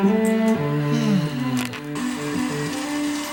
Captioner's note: sigh